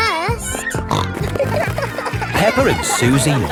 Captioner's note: snorting